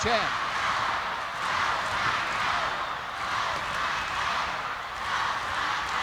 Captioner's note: crowd chants "Go, Scott, go"